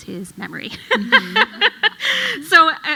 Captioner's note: laughs